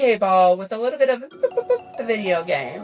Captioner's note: boop boop boop